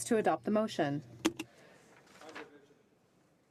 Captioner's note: speaking in french